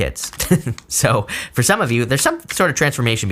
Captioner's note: chuckling